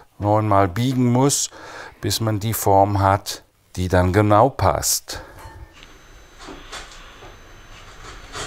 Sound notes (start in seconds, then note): 6.4 hammering in the background